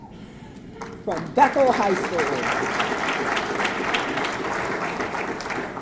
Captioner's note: audience clapping